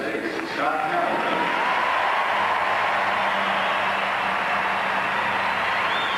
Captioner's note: audience cheers and applause